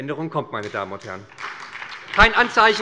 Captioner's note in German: Beifall bei der SPD